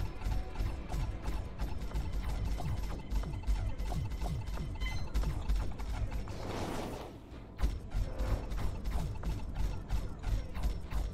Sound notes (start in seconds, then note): 0.0 pew pew pew pew